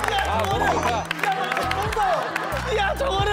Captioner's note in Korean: 기립박수